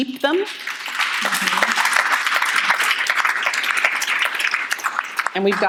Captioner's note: audience applauding